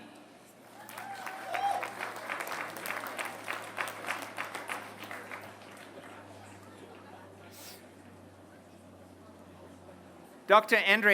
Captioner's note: applause